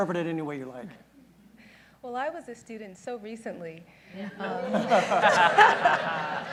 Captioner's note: laughter